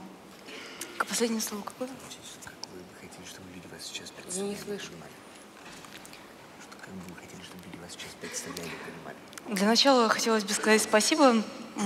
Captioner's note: foreign Language